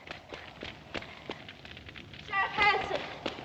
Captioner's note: footsteps running